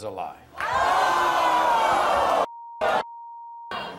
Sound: audience boos

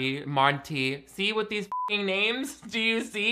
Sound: beep

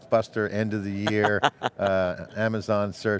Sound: laughing

